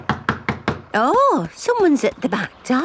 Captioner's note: knocking at door